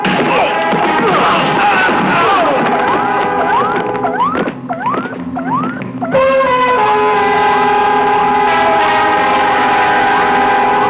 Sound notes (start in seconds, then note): 0.0 guns firing; 0.0 whacking; 0.3 crying out; 4.0 dramatic music; 4.0 electronic beeping